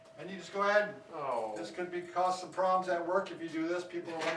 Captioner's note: groans